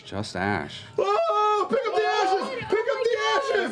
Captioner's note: shouting